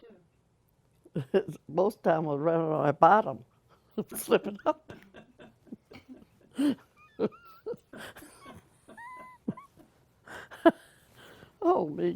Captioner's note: laughter